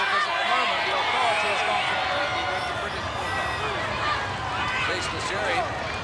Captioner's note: crowd clamoring